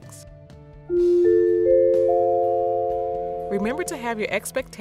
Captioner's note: chime sound